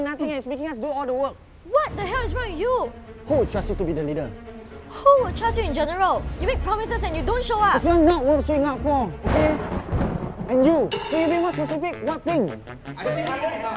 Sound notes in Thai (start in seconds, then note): 9.2 เสียงฟ้าผ่า; 13.1 โต้เถียง